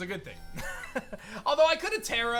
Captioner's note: chuckles